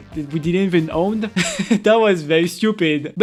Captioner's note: laughs